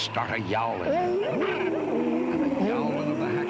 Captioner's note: all yowling